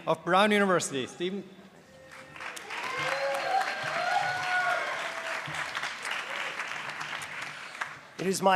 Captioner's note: applause